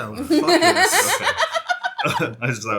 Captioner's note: laughing